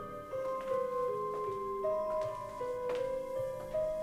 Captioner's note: shoes click